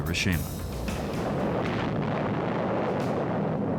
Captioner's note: explosion